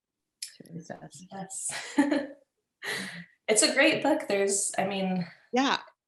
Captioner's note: laughs